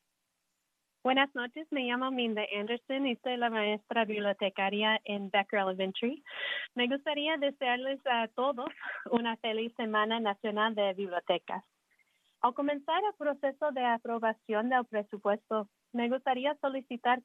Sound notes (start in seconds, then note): 5.5 speaking in spanish